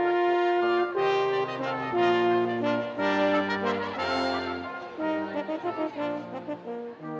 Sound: students cheering

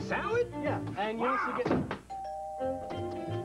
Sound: doorbell

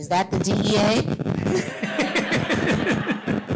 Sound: laughter

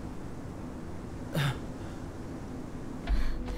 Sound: moaning in pain

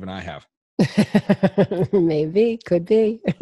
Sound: laughs

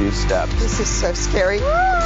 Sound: screams

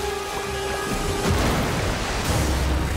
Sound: splashing

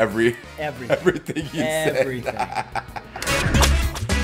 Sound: laugh

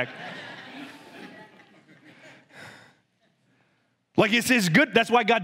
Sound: congregation laughs

